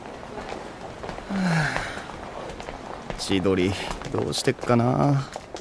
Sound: sigh

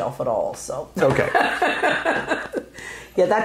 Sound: laughing

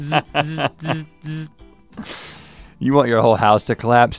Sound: laughs; Link makes buzzing sound

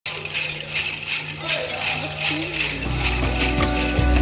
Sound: Jingle Cones jingling

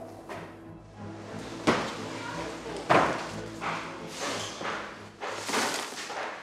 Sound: workers busily clattering boxes

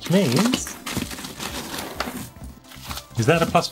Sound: paper tearing

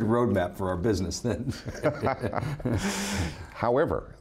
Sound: both laugh

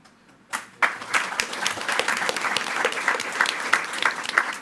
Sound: attendees clapping

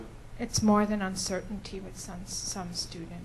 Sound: voiceover

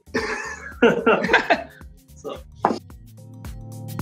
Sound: laughs; upbeat music

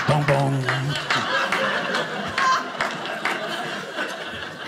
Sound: audience laughing

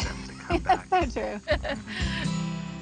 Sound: laughs

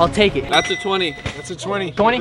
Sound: chime

